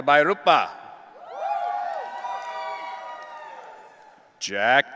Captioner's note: audience cheering